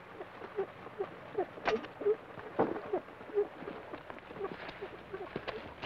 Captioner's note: rocker box squeaks rhythmically